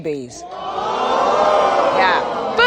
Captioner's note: audience gasping